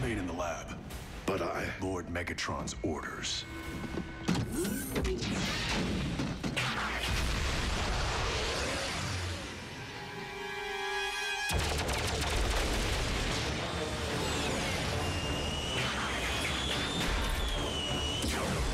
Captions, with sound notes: >> REMAIN IN THE LAB.>> B UT I -- >> LORD MEGATRON'S ORDERS. [ GEARS CLICK ]